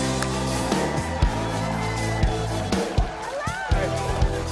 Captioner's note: crowd cheers; upbeat music